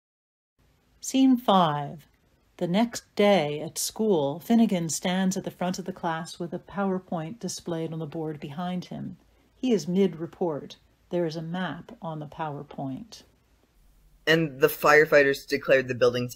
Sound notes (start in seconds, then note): none